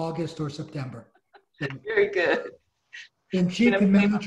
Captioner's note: laughs